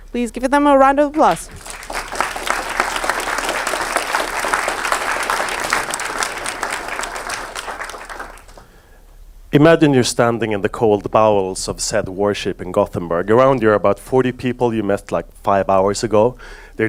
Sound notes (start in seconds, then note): 1.2 audience applauds